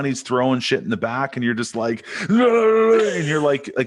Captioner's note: chuckles; yells